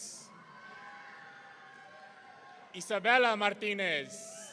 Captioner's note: audience cheering